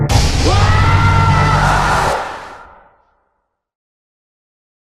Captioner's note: disembodied screaming